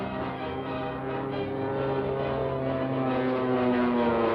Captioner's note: engine buzzing